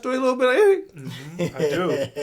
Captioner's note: chuckles